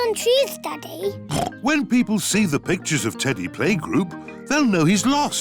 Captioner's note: oinks